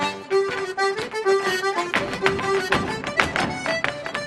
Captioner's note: boots stomping